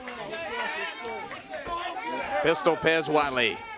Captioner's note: crowd chatter